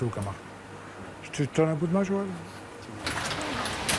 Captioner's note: he speaks French